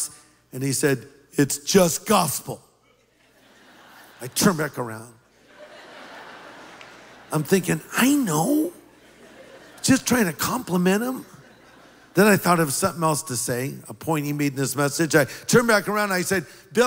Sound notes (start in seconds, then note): 5.3 laughter